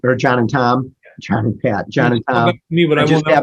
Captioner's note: chuckles